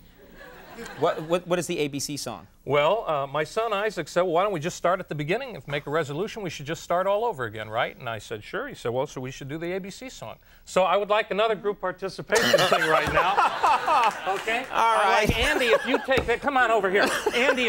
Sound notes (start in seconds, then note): 12.3 Conan laughs loudly